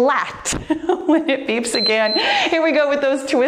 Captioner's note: timer beeps